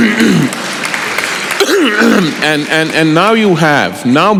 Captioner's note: applause